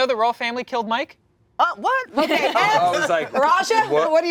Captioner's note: laughter